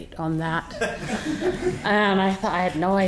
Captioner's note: audience laughing